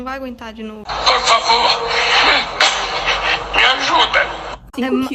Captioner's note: cough